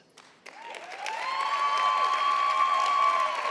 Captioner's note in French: Acclamations et applaudissements